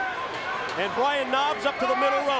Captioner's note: crowd cheering